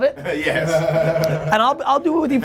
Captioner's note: laughing